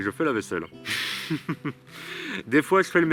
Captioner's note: laughs